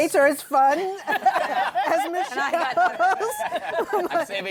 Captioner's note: laughter